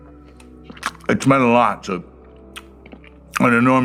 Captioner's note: his mouth full